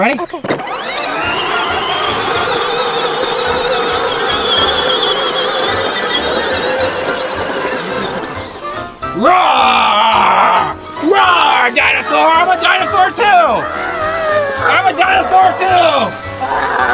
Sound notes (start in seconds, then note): 3.2 light music; 9.2 Mr Engineer roars; 16.7 roars